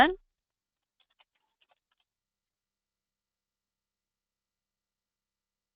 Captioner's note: computer keyboard keys tapping